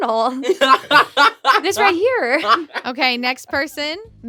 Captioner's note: laughs